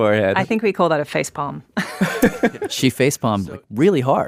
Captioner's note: laughs